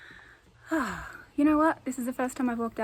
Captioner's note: sighs